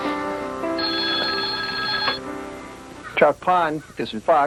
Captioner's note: telephone rings